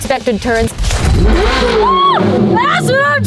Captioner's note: engine revs